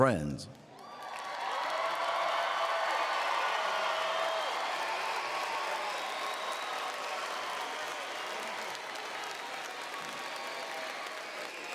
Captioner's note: applause